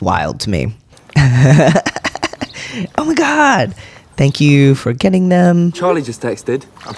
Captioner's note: laughter